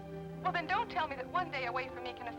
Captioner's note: on telephone